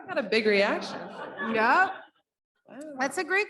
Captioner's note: audience laughs